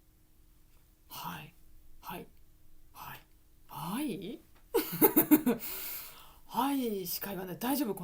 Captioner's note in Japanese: 笑い